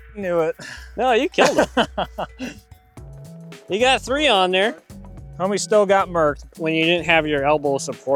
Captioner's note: laughter